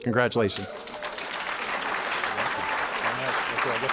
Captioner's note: applause